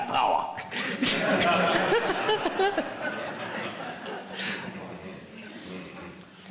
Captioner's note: people laughing